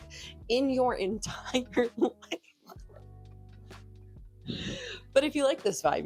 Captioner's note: breathy laughs